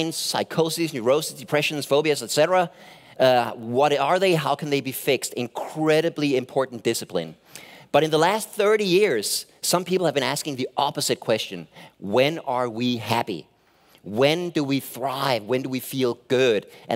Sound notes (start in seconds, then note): none